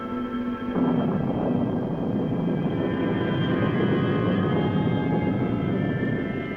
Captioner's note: thunder booms